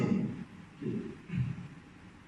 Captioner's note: clearing throat